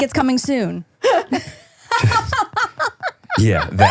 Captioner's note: both laughing